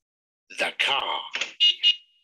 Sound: car honks

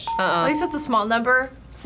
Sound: bell rings

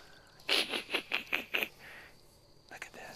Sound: laughter

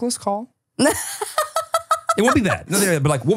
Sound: laughs

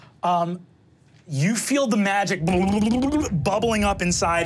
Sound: mimics bubbling

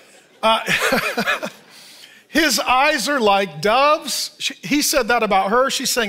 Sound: laughs

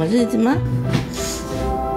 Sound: suck

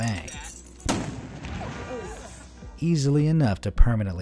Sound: grenade booms

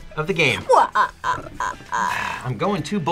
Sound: laughs

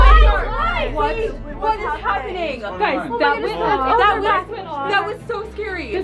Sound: yelling in confusion

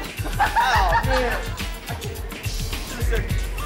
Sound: laughs

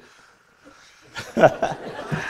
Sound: laughter

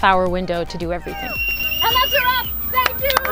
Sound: cheering

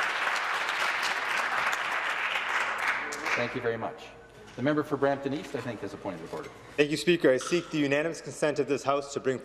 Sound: applause

